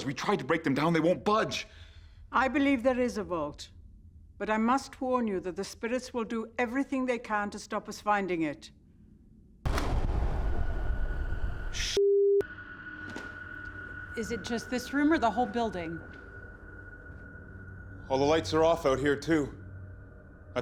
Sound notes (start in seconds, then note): 9.8 electricity whirring down; 9.8 frightening music